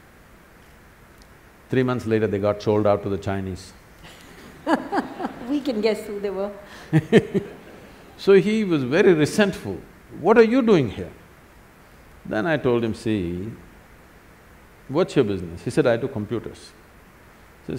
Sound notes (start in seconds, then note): 4.0 laughs; 4.0 laughter; 6.7 Sadhguru laughs